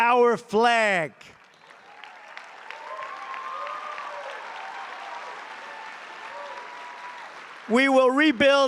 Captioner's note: applause